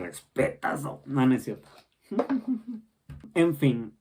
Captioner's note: giggles